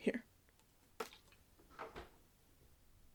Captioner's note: sound of bottle being caught + fridge closing